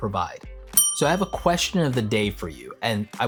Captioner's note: bell tolls